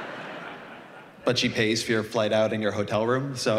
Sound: laughter

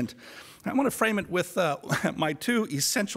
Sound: chuckles

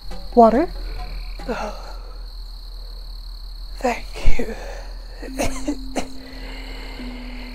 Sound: cough cough

